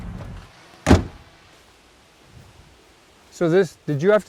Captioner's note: car door closes